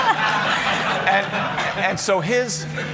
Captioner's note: laughter